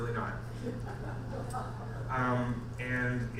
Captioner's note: audience members laugh